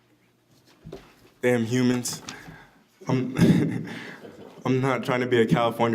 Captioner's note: laughs